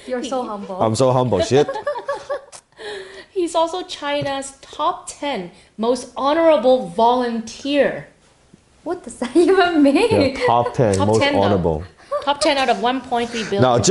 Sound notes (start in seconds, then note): 1.3 laugh